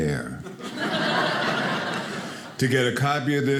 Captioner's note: audience laughing